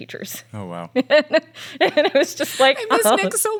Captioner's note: laughs